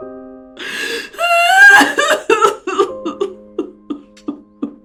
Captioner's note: crying